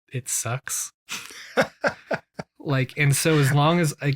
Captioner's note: laughs